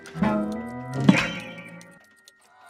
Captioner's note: boing